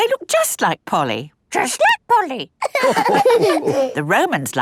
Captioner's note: all laughing